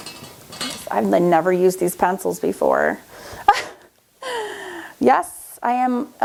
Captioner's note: laughs